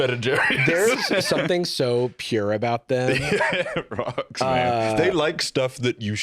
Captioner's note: laughing